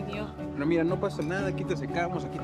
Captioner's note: Lion speaking in foreign language; Anna speaks in foreign language; Lion speaking in foreign language